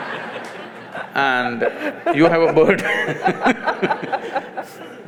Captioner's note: laughter; both laugh